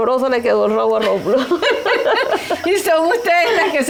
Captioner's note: laughs